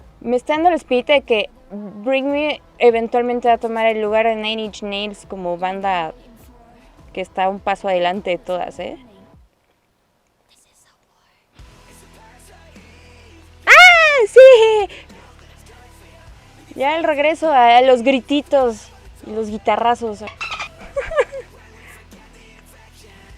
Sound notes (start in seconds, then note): 13.6 intense fangirling